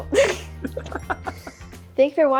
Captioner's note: laugh